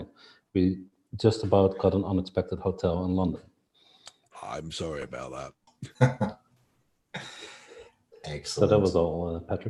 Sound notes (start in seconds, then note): 5.8 laughs